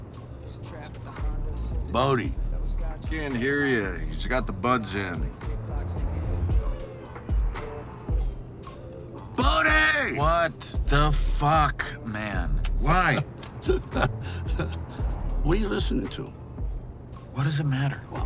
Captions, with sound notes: Bodhi. - He can't here you, he's got the buds in. - Bodhi. - What the fuck, man? Why? (Dwight laughs) - What are you listening to? - What does it matter?